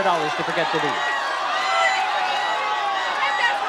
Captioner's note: audience shouting